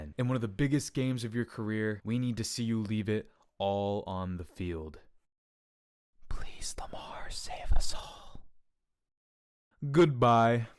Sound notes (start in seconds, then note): 5.4 whispers